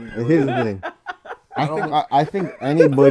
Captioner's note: laughs